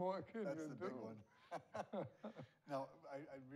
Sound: both laughing

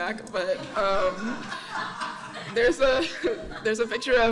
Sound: audience laughing

